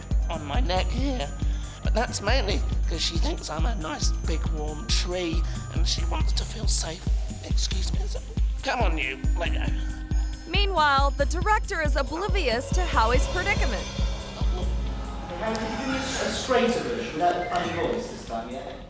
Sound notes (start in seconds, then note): 8.2 groans; 14.3 Howie groans